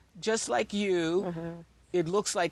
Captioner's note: chuckles